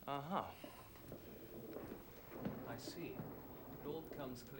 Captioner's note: thunder Rumbles